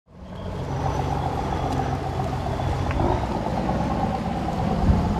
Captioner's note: boat engine